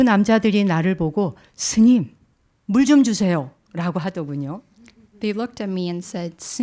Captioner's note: speaking in Korean